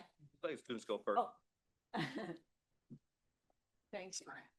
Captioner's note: chuckles